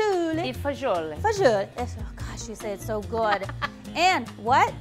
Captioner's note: laughter